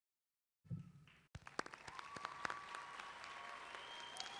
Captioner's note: clapping